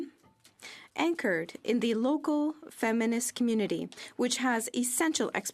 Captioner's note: speaking French